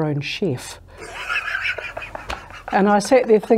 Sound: laughing

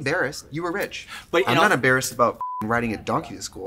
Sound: beep

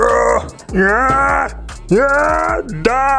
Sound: loud grunting

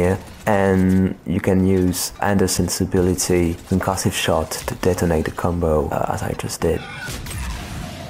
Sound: concussive shot

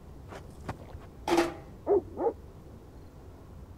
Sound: loud banging sound

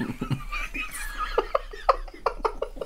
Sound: wheezing

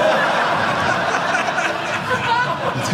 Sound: audience laughing

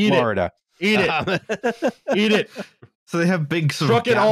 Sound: laughs

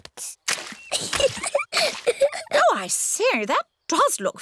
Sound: giggles

